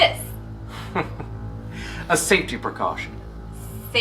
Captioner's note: laughs